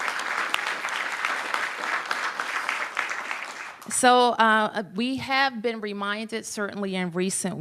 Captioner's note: applause